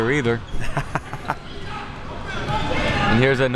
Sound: laughs

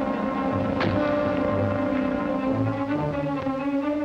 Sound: door closing

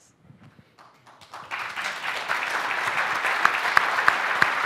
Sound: applause

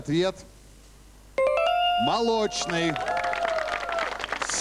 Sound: applause

